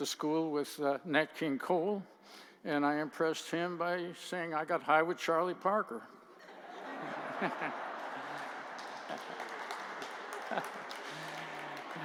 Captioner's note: laughter